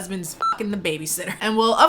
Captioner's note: beep